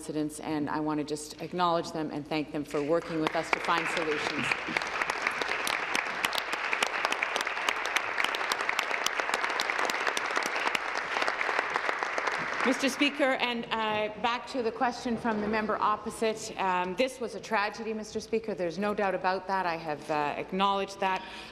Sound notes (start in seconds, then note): 7.4 applause